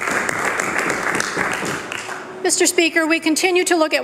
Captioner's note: applause